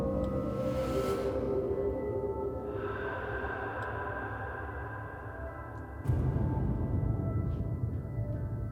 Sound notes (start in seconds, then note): 2.4 eerie breathing